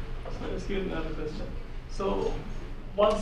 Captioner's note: voiceover